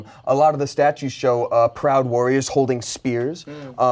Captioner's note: none